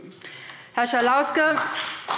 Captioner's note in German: Beifall BÜNDNIS 90/DIE GRÜNEN und CDU